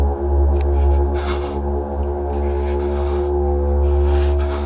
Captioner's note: Larry shuddering